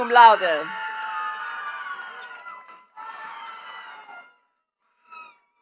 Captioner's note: attendees cheering and clapping